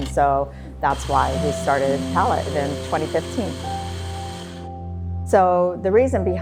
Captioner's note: coffee grinding